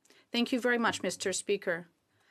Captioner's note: speaking in French